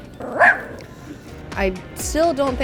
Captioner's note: dog barking